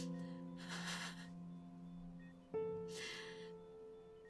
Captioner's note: Cassie crying